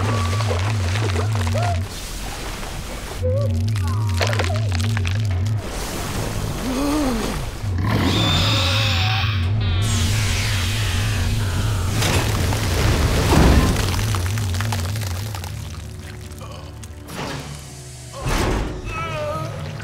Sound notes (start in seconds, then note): 4.0 cracking; 6.6 gasping; 7.9 screeching; 18.8 groaning